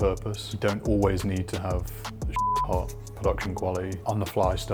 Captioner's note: beep